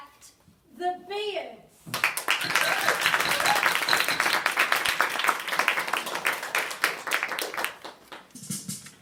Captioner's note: audience applauds, scattered cheers